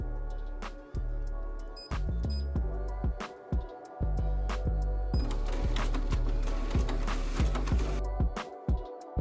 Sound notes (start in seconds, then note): 1.6 beeping; 5.2 copier machine sounds